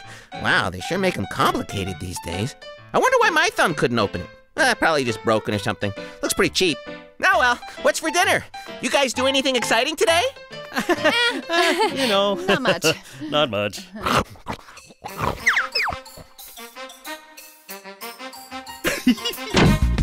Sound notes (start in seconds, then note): 10.6 nervous laughter; 14.0 chomping; 18.8 giggling